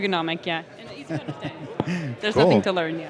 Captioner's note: laughing